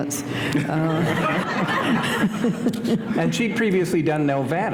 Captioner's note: laughter